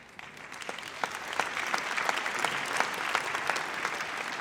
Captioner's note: audience applauds